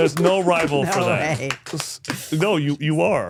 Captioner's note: all clapping and cheering